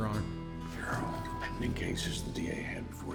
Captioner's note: whispers